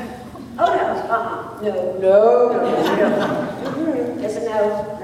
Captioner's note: laughter